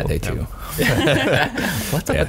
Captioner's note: laughs